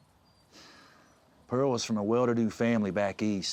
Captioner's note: sighs